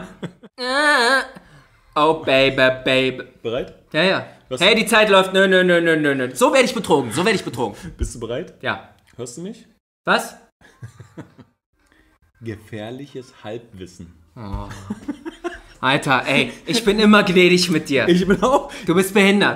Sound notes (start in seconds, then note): 0.2 sings intro; 10.7 laughs; 14.4 moans